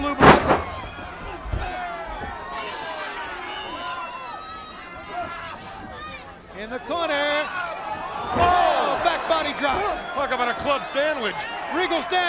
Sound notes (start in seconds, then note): 1.5 crowd chatter